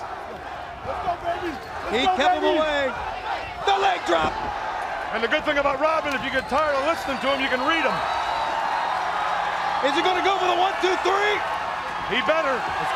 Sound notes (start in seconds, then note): 10.3 crowd cheering